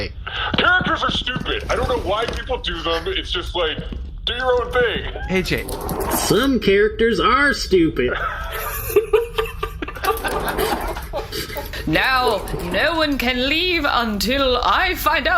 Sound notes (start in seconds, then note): 7.7 accented; 12.0 cast breaks into laughter